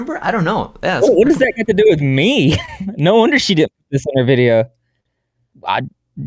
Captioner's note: laughs